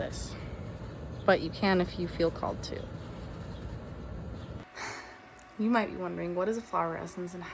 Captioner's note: exhales